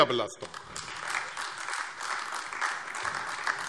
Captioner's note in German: Beifall AfD